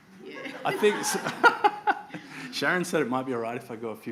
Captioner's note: laughs